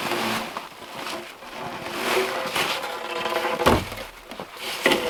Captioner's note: log crunching